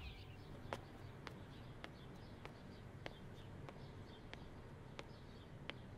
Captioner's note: Footsteps